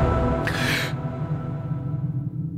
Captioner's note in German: Erschrecken